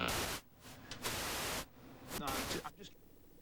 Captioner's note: static